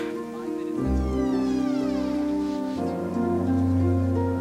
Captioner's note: door creaks open